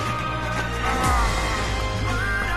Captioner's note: grunting